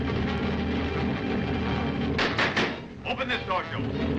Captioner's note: tense dramatic music; hand slapping; tense dramatic music